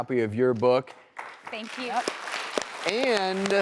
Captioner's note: applause